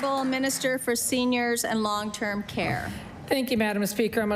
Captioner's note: applause